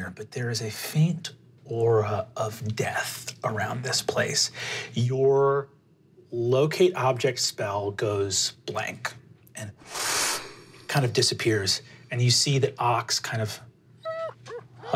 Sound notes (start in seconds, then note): 8.9 whooshes; 14.0 whimpers